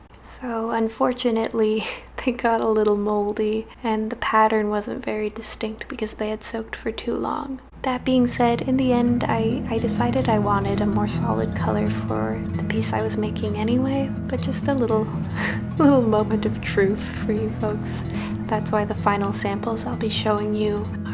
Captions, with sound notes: So, unfortunately, they got a little mouldy and the pattern wasn't very distinct because they had soaked for too long. That being said, in the end I decided I wanted a more solid colour for the piece I was making anyway but just a little *chuckles* little "moment of truth" for you folks that's why the final samples I'll be showing you